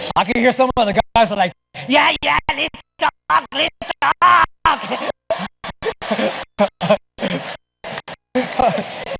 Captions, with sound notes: I can hear some of the guys are like, yeah, yeah, this Chocolate, let's talk. [LAUGHTER]